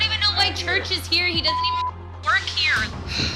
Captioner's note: beep